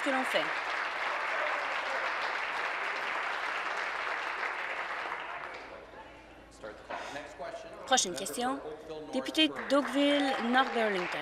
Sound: applause

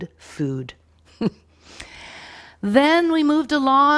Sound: chuckling

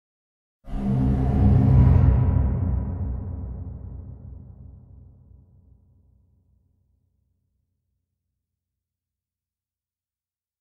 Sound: scary horror noise

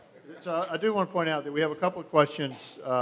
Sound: laughs

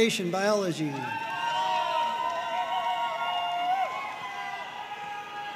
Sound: audience cheering and applauding

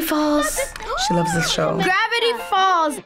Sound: gasps

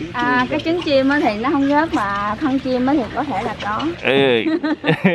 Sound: laugh

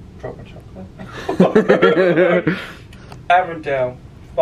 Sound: both laugh

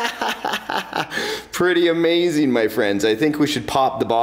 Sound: laughing

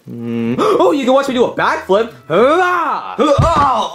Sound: gasps; Mario groaning; grunting

